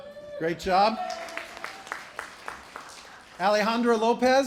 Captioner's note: applause